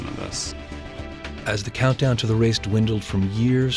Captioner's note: voiceover